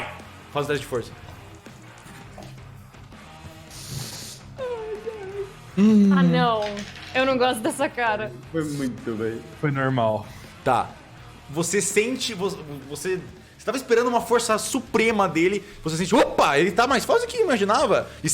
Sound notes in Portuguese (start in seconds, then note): 3.7 respira fundo